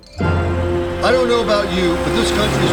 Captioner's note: radio